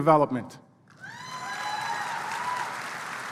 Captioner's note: applause